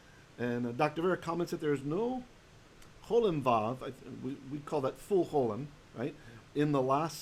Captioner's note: Hebrew